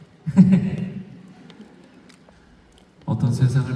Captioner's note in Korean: 웃음